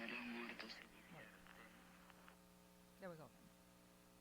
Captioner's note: voice garbles